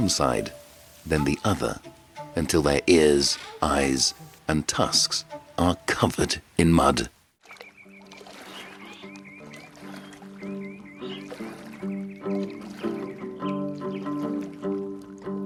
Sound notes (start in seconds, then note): 7.4 birds chirping; 7.8 soft music